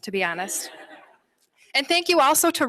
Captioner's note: laughter